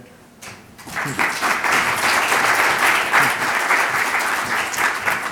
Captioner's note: audience applauding